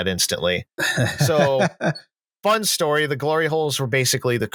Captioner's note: laughs